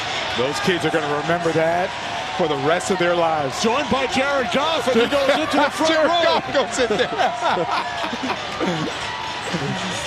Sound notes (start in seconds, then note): 6.3 both laughing